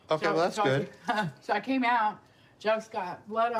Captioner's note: laughs